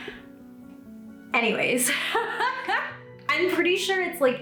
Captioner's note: laughs